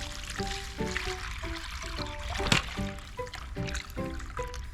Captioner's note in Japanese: 用水路の美味しい水を注ぐ音